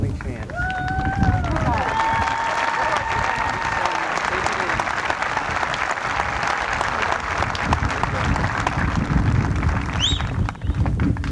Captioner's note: applause